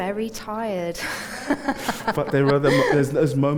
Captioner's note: laughs